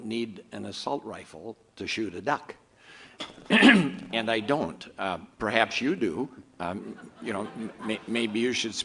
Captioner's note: audience murmurs